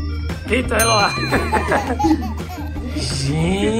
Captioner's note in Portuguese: som de risada de criança